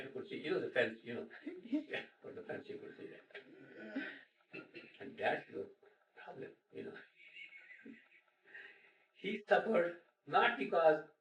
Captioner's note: laughter